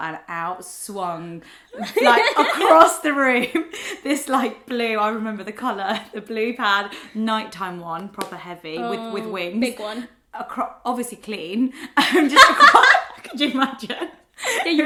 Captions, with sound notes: and out swung, across the room, this blue, I remember the colour, the blue pad, night time one, proper heavy, with wings. - Thick one. - Obviously clean. (laughs) Could you imagine?